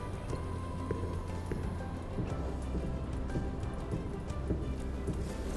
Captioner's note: steps, distant